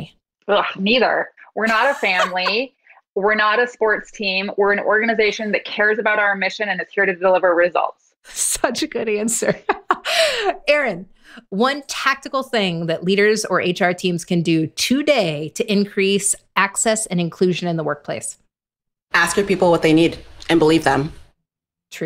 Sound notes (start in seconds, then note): 1.6 laughs; 10.0 laughs